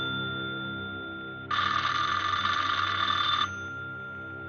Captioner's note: phone ringing